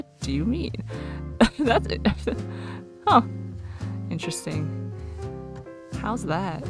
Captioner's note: laughs